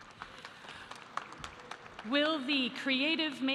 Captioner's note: audience applauding